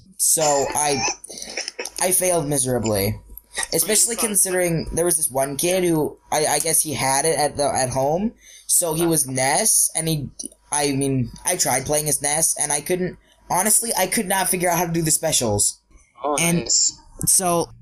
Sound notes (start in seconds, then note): 0.3 laughing